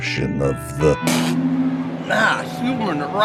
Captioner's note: spits